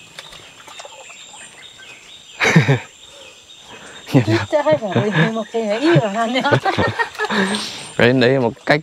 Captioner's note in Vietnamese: Tiếng cười